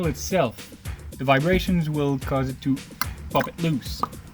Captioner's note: pop